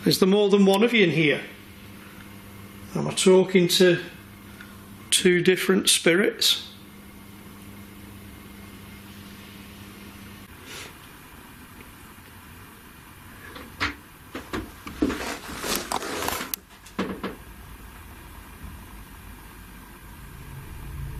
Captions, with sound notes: Is there more than one of you in here? Am I talking to two different spirits? (clanking) (light knocking)